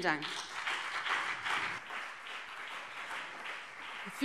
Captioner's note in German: Beifall BÜNDNIS 90/DIE GRÜNEN und CDU